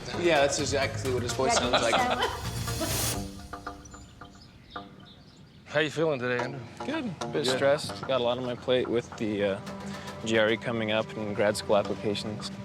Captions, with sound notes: Yeah, that's exactly what his voice sounded like. [laughing] How are you feeling today, Andrew? Good. A bit stressed. Got a lot on my plate with the GRE coming up, and grad school applications.